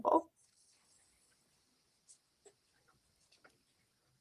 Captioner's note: silence